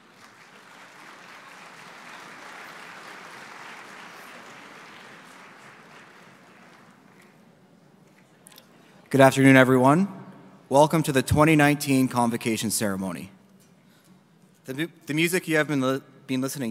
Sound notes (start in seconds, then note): 4.3 applause